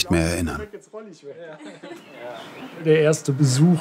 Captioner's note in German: Stimmengewirr